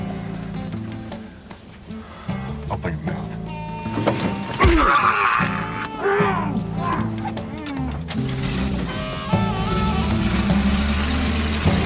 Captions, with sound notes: Open your mouth. [thud] [screams in pain] [muffled exclamations] [truck engine revs]